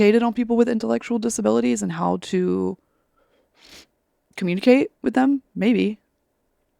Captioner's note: sniffles